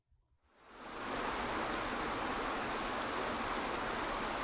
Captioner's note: water flowing